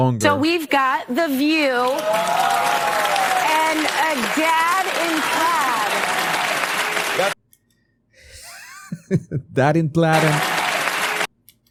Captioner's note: audience cheering